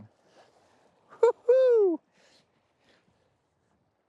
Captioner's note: chuckles